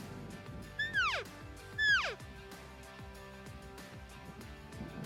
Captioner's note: elk call